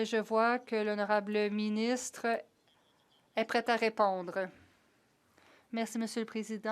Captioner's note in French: voix de l'interprète